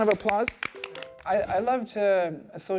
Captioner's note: clapping